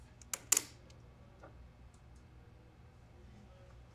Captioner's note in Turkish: Sessizlik